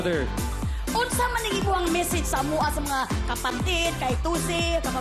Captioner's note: in Bisaya